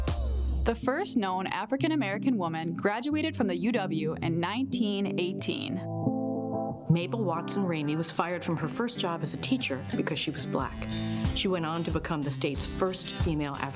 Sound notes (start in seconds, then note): none